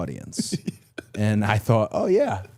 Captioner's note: Chad laughs